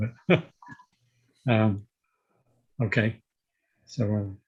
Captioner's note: laughing